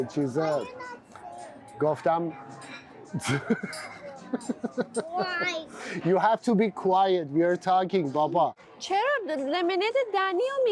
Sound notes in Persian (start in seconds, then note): 3.1 خنده